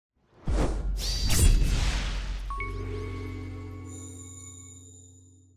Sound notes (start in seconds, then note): 0.3 swoosh; 1.0 sword slash